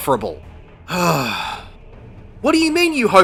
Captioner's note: sigh